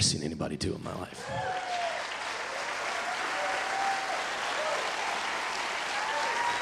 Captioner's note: audience cheering and applauding